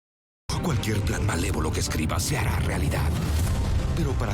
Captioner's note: speaking in Spanish